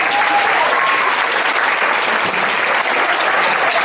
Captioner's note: audience applauds